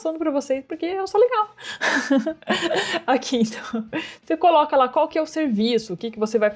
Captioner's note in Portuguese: risos